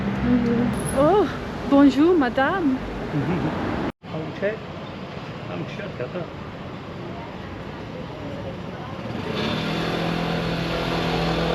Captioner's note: street sounds